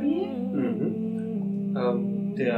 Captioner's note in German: zustimmendes Gebrummel